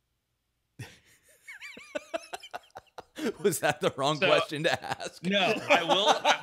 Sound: laughing

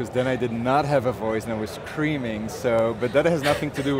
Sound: laughing

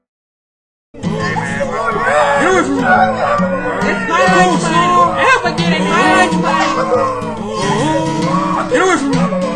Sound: kids Shouting

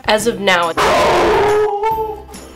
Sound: dog barks loudly

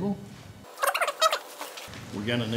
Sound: sped up talking

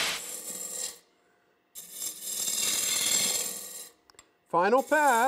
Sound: tool noise

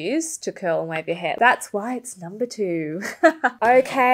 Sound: laughs

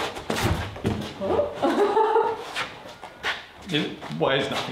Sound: laughing

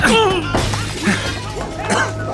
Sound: commotion; glass breaking

